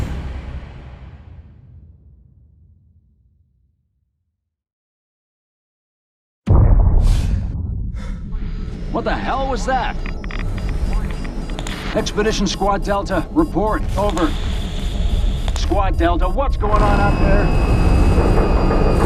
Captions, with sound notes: [EXPLOSION] [MAN PANTING] What the hell was that? Expedition Squad Delta report. Over. Squad Delta, what's going on out there?